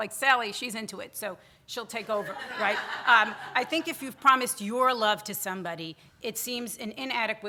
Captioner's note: audience laughter